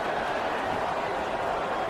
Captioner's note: crowd Noises